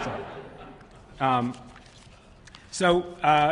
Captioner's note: laughter